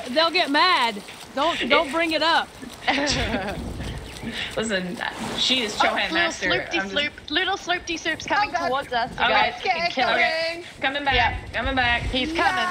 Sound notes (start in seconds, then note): 2.5 laugh